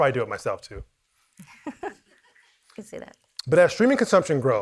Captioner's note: chuckles